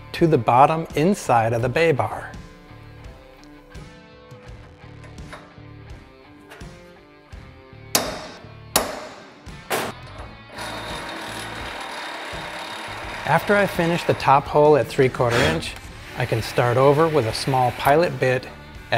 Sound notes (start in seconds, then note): 3.7 upbeat rock music continues; 7.9 hammer thumping; 10.5 machine whirring